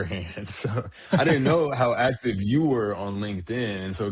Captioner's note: laughs